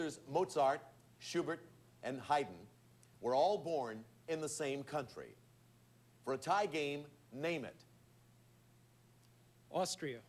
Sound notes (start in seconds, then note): none